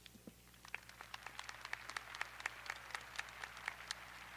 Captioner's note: audience applauding